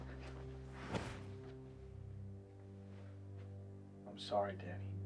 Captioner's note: air whooshes